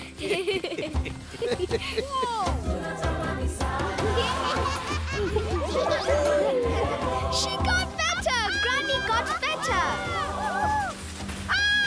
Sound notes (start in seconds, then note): 0.0 laughing; 3.8 all laughing